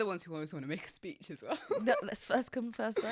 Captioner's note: laughs